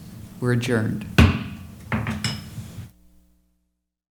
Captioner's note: bang